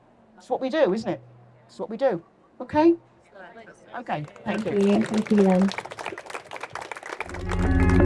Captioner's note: applause